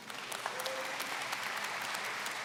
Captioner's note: applause